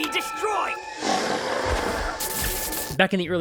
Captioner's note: snarling, sparking